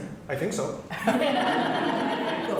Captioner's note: laughter